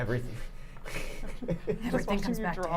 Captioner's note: chuckles